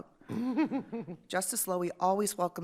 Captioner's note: laughter